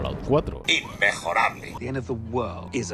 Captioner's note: robot